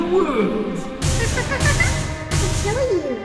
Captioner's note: cute laughing